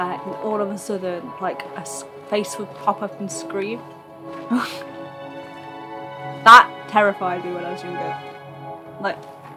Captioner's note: laughs